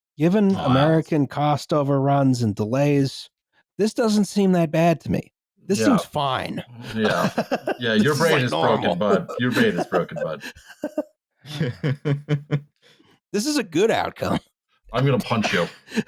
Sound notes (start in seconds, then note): 6.6 laughs; 12.3 laughter